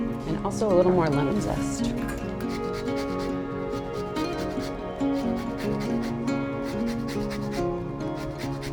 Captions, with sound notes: and also a little more lemon zest. (bright music) (grater whooshing)